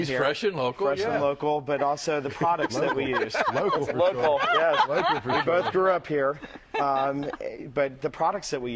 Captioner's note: laughter